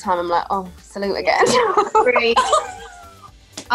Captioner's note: laughs